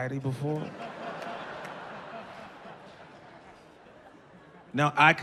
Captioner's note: audience laughing